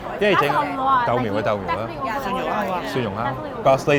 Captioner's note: and server speaks in foreign language